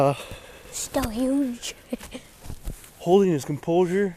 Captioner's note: laughs